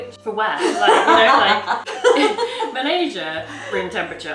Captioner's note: laughs